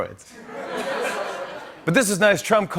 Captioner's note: laughter